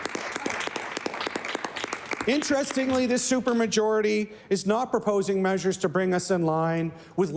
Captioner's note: some Applause